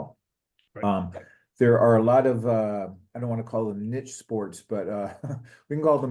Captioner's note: laugh